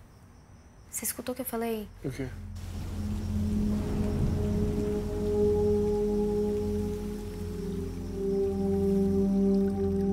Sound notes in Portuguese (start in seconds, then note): 3.4 som de chuva; 8.1 zumbido de insetos